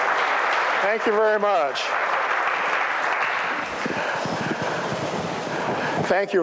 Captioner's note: applause